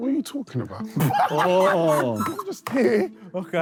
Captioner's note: Sidemen laugh